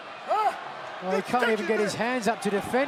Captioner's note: crowd chatter